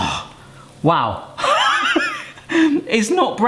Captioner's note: laughs